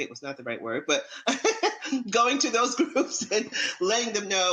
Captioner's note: laughs